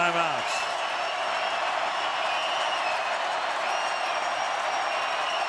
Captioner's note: crowd cheering